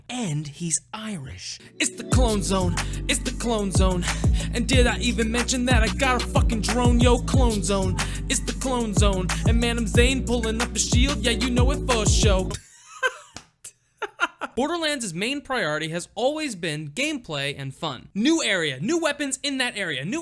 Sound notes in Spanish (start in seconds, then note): 12.6 risas